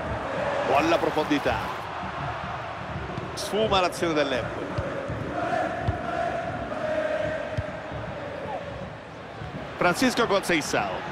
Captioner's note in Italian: Applauso